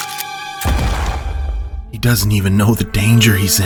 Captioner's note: gunshot fires